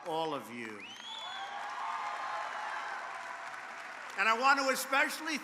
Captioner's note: applause